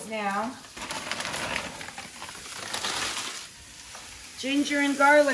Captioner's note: plastic bag crinkles